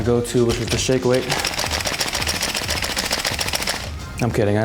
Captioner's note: weight clacking